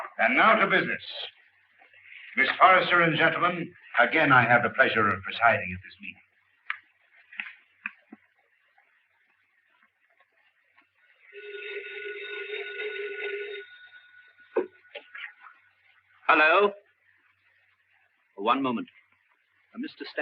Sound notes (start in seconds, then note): 11.2 telephone ringing